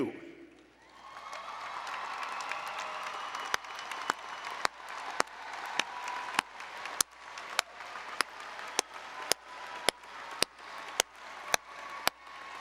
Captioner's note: applause and Cheering